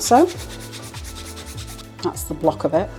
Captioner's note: grater rasping